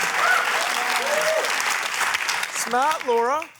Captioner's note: cheering, applause